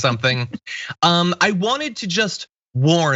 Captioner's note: laugh